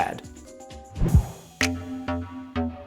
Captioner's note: wind whooshing; upbeat music